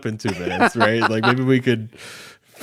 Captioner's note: laughing